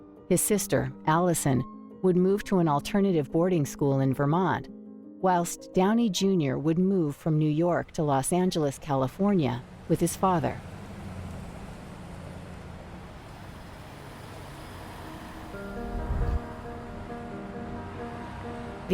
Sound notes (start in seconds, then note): 10.2 traffic hums; 14.8 nostalgic music playing